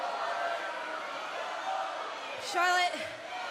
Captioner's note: fans chanting